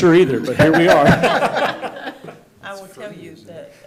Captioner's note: board members laughing